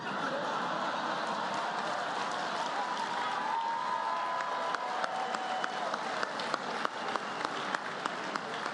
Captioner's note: laughter, applause